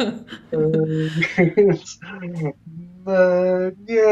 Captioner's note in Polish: śmieją się